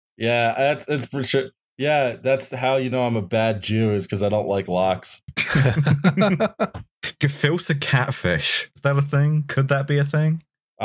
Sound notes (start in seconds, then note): 5.3 laughter